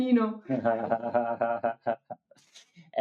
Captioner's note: laughing